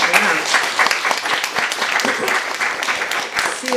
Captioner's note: applause